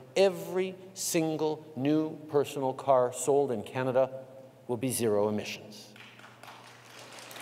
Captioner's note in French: Applaudissements